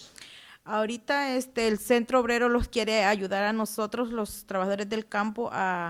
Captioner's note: speaking Spanish